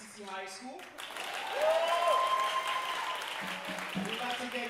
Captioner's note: audience cheering and applauding